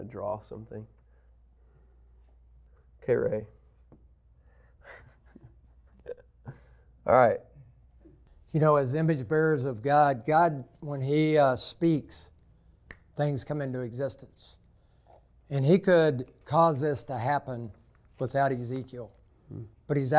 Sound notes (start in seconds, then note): 4.7 laughing